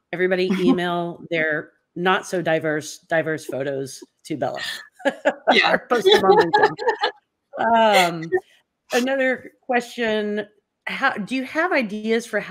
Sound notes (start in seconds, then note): 4.5 laugh